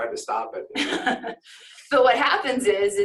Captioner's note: laughs